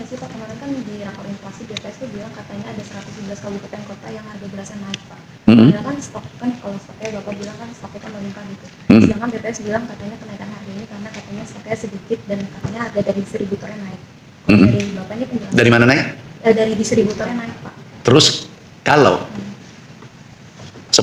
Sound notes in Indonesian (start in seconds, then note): 14.5 berdehem